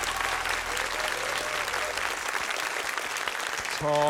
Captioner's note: cheering, applause